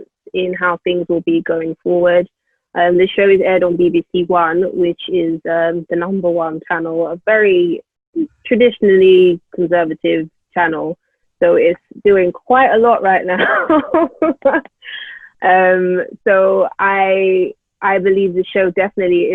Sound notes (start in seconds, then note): 14.5 laughs